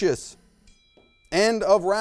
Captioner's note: bell rings